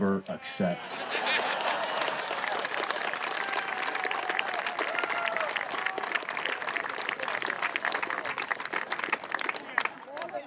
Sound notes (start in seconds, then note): 1.0 crowd laughs and cheers